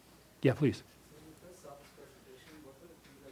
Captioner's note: voiceover